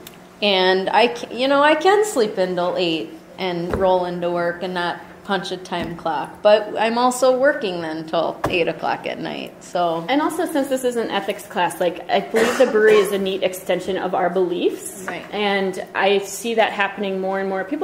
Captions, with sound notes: You know, I can sleep in until 8:00 and roll into work and not punch a time clock. But I'm also working, then, until 8:00 o'clock at night. - [Voiceover] And also, since this is an ethics class, like, I believe the brewery is a neat extension of our beliefs, and I see that happening more an more.